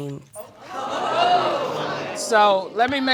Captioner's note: audience exclaims